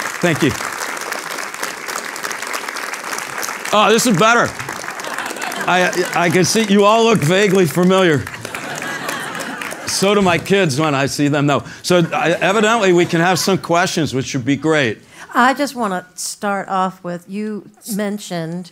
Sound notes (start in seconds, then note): 0.0 applause; 8.2 laugh